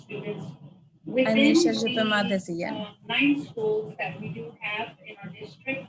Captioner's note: speaking in native language